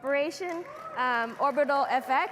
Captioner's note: audience cheering and clapping